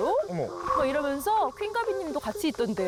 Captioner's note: buzz-cut head shocked sound effect